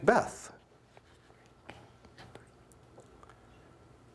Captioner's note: whispering